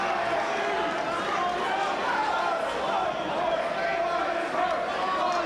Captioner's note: crowd chanting